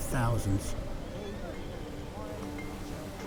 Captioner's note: wind whistling